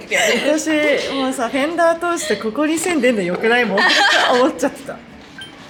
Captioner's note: laughs